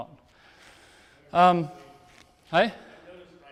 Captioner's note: speaks off microphone